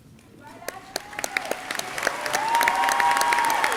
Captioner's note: audience clapping; audience cheering